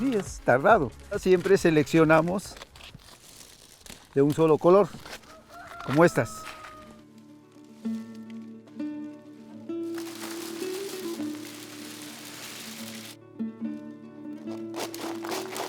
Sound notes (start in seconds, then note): 9.0 gentle music; 11.4 corn whirring